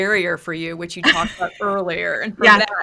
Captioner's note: laughs